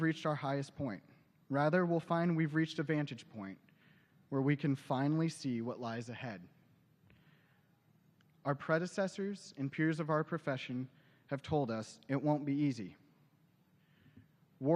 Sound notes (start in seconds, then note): none